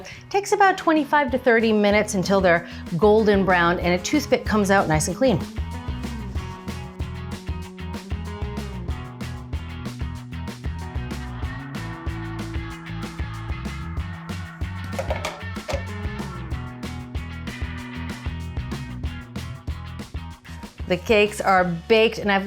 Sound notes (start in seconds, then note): 8.4 lively music; 13.0 tray taps